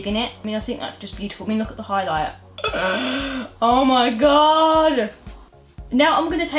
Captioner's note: gasps